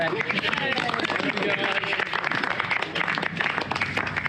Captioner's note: applause